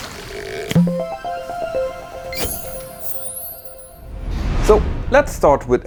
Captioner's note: playful chime